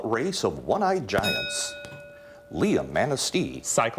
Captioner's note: ding